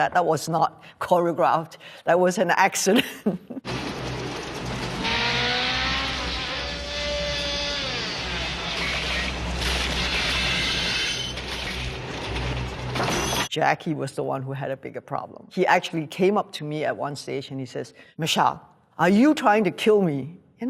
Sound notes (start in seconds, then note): 3.6 engine roaring; 9.1 tires screeching